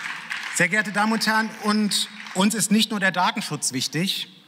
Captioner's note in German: Beifall